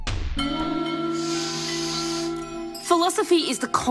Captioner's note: inhales deeply